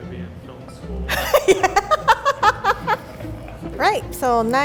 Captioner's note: laughs